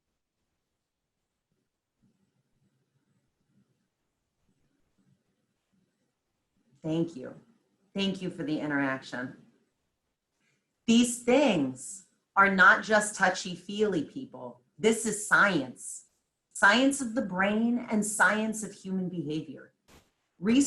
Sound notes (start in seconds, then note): 0.0 silence